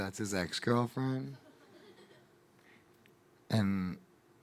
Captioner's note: audience laughing